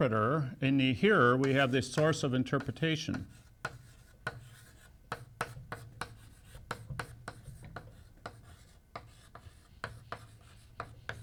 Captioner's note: chalk sounds